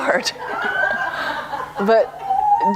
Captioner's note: laughter